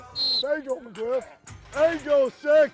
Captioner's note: whistle blowing